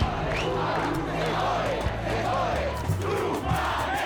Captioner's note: chanting in Spanish